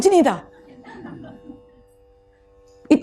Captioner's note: audience laughs